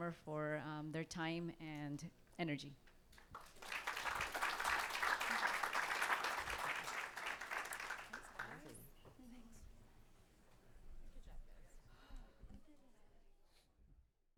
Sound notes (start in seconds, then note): 3.2 audience clapping; 9.9 people chattering